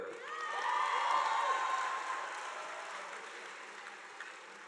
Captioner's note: audience applauding